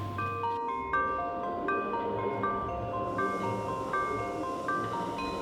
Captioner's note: bells chiming